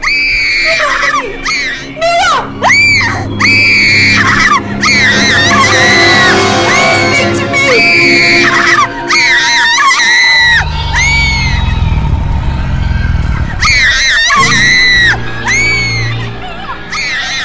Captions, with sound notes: My god, honey! Mia! (screaming) Please speak to me! (screaming) (growling) Mia! (screaming) Mia!